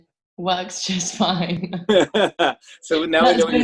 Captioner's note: both laugh